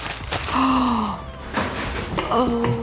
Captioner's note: gasps